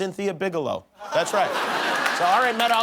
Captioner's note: laughter